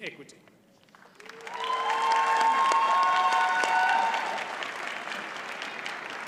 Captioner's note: audience cheers and applauds